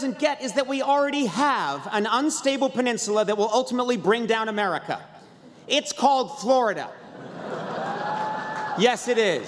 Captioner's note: laughter; applause